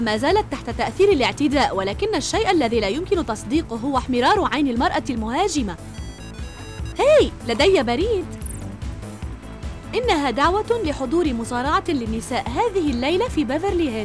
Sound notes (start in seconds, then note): 5.9 notification beep